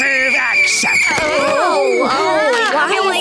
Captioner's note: screeching; groaning